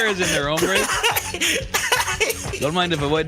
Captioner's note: laughs